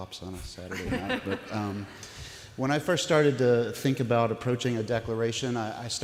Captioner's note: laughter from audience